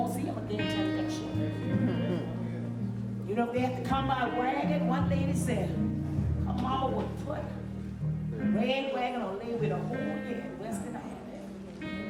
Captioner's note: natsound of preaching